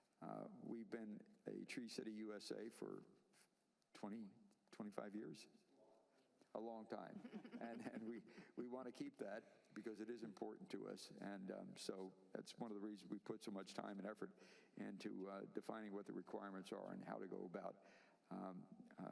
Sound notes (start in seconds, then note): 9.3 laughter